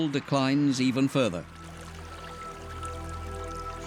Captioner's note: water trickling